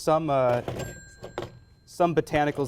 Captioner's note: telephone "dings" as places it